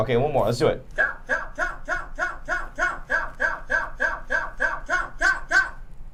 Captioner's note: computer repeatedly saying cow